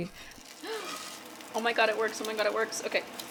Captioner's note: gasps